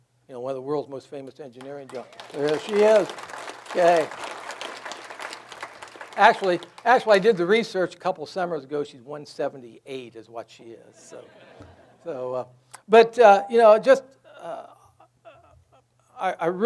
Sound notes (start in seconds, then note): 4.6 audience applauds; 11.0 audience laughs